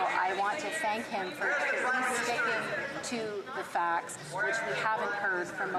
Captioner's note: yelling